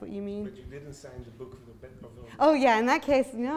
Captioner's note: voiceover